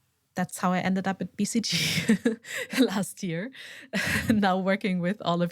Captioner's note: chuckles